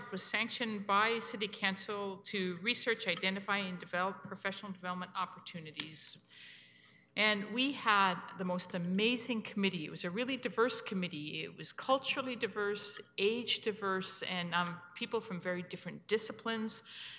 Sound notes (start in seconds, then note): none